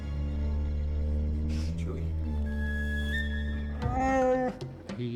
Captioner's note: grunts